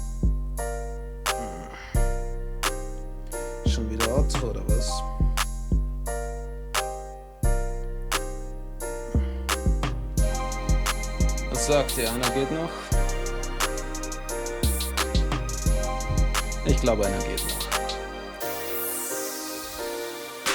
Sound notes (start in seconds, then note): 1.4 sigh; 7.4 sigh again